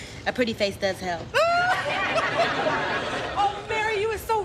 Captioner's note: laughing